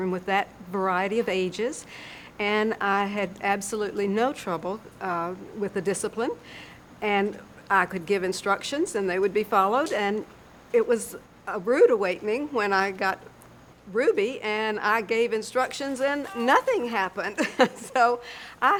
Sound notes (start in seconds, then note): 17.1 laughs